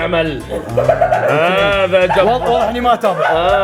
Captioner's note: laughs